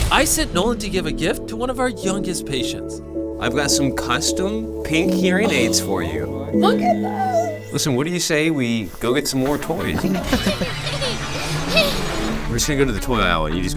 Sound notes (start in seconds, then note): 9.5 child laughs